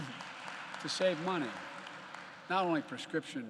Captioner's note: applause